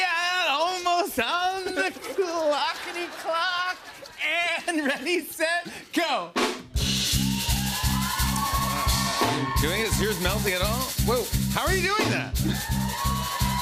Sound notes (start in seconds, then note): 1.6 laughter; 7.0 cheering